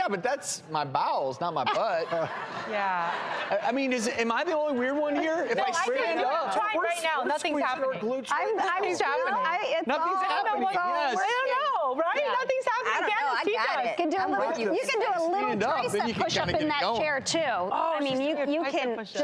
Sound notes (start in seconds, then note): 1.6 laughter